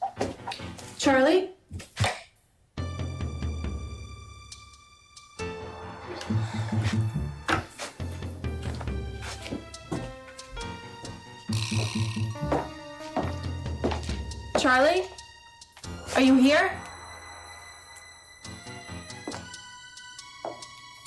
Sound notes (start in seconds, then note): 3.0 suspenseful music; 11.7 footsteps tapping; 18.3 suspenseful music; 20.8 footsteps tapping